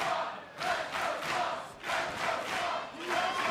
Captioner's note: crowd cheering